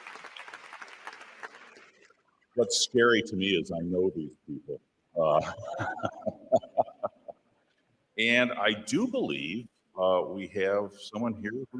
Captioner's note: applause; laughs